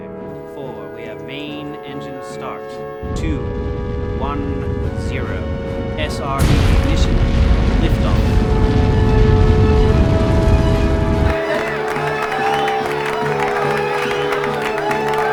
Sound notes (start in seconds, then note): 9.0 inspiring music; 9.0 rocket rumbling; 11.6 all cheering